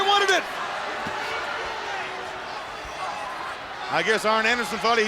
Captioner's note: crowd cheering